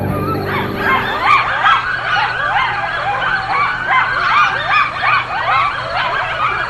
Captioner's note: coyotes barking